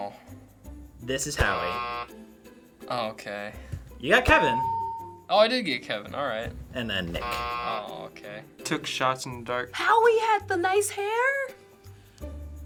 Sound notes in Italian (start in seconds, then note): 1.4 buzzer; 4.3 ding; 7.1 buzzer